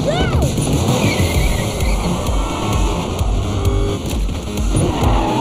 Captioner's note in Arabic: تسريع المحرك; صرير الإطارات